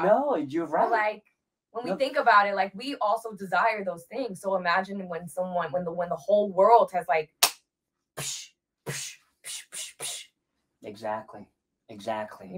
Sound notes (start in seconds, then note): 8.2 imitates fighting noises